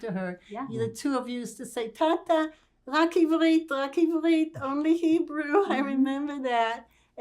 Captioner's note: hebrew